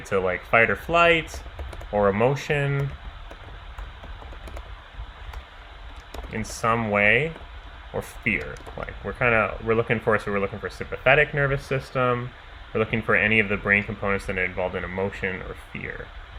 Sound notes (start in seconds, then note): 4.0 keyboard clicking